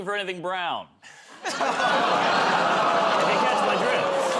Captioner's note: laughter, groaning